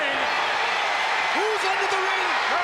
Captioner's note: audience cheering